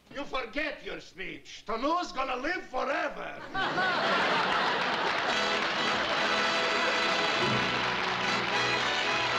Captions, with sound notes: You forget your speech. Toloose's going to live forever. [LAUGHTER AND APPLAUSE] [TRIUMPHANT MUSIC]